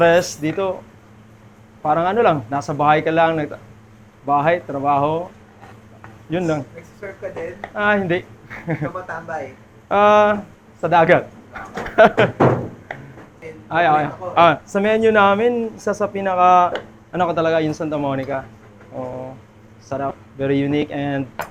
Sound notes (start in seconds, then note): 11.5 laughs